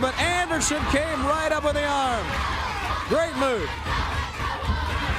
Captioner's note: crowd cheering